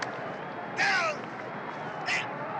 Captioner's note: referee shouting